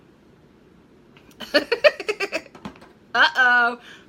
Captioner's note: laughing